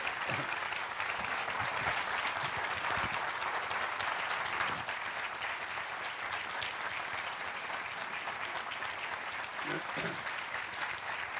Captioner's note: applause